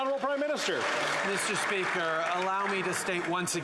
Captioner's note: some Applause